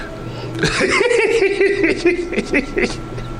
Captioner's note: laughing